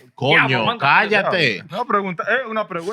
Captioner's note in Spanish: Hablando en idioma extranjero